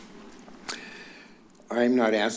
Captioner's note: clicks tongue